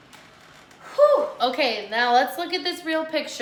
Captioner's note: sighs